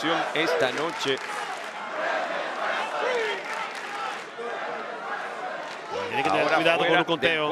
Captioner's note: applause